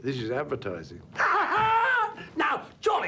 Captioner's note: Maurice laughing